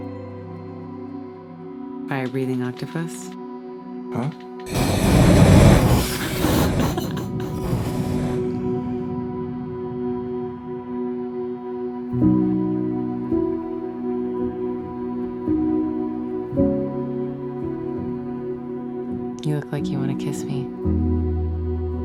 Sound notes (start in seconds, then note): 4.6 fire roaring; 13.1 light melodic music